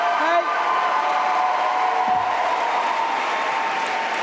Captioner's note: applause continue